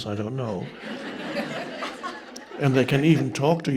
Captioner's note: audience members laughing